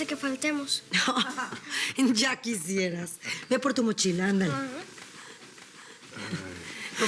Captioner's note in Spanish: Risas